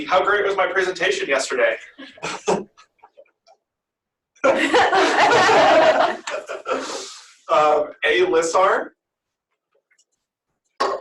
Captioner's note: laughter